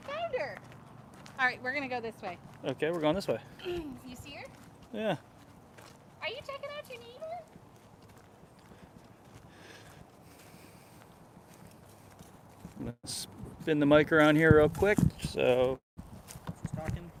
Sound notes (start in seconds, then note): 7.1 walking sounds